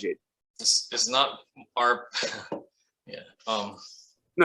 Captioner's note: chuckles